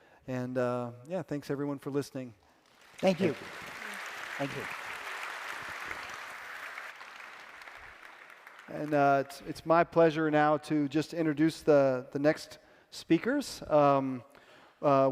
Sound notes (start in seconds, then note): 5.0 applause